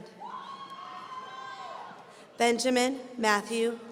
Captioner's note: audience cheering